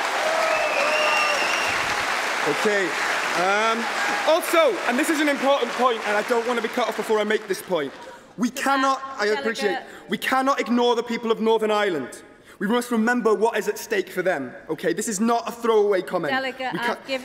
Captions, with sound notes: Jeremy Corbyn. We need to stand behind him on this. We need to support him. We need to trust him and his team. (Applause) OK. Also, this is an important point and I don't want to be cut off before I make this point. We cannot ignore the people of